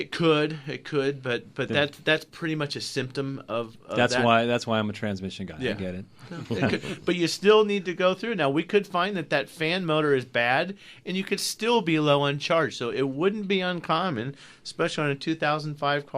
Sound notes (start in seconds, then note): 6.2 group laughs